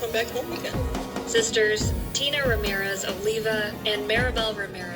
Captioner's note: on TV